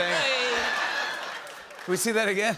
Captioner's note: laughter